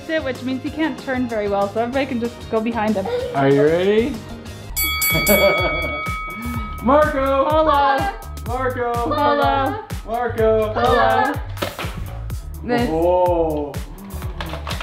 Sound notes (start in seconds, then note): 4.7 bell dings